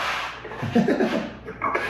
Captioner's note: laughs